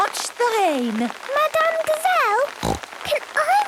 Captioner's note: snorting